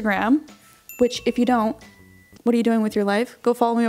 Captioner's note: bell dinging